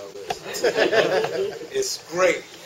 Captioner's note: laughter